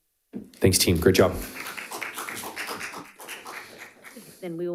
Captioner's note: audience applauding